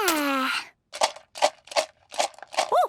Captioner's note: objects shaking